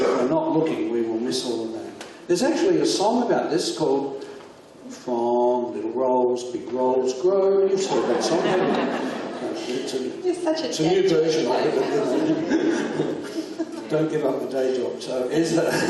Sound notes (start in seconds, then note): 7.7 audience laughs; 15.5 audience laughs